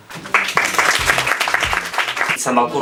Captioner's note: applause